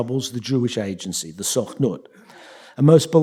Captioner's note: yiddish